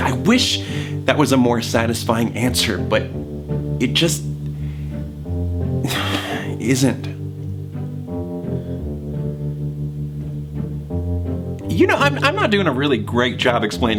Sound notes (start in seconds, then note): 5.8 sighs; 7.7 whimsical music